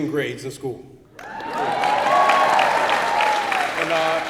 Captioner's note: applause